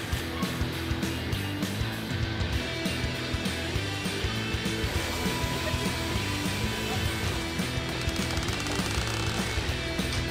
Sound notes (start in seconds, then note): 8.0 creaking